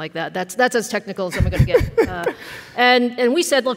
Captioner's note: laughs